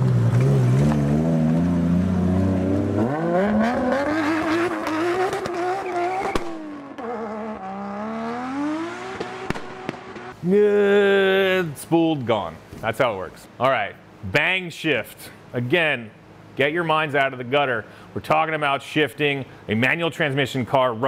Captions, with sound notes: (engine roaring) (engine sputtering) Good, spooled, gone, that's how it works. All right, bang shift. Again, get your minds out of the gutter, we're talking about shifting a manual transmission car